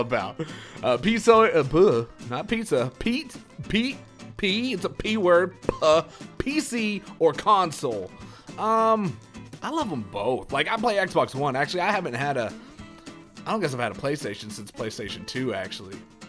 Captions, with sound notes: *mumbles* Not pizza. P. P. It's a P-word. PC or console? Um, I love 'em both. Like I play XBox One. Actually, I haven't had a.. I don't guess I've had a Playstation since Playstation 2 actually.